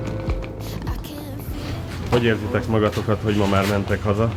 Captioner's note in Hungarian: horkantás